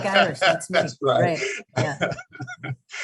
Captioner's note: laughing